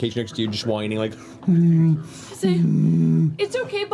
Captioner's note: sad bear whimpers